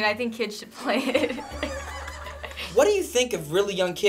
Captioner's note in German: Finebros lacht